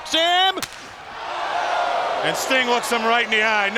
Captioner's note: crowd exclaiming; chop striking